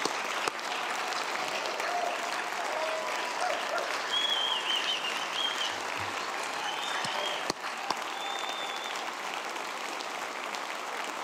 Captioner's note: applause; cheers and applause